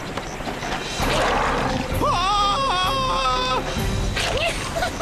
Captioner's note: roars; giggles